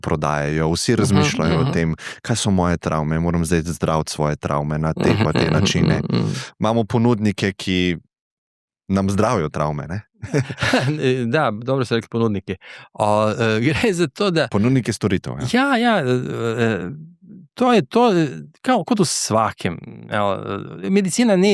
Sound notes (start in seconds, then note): 10.2 laughs